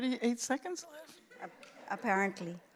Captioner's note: laughter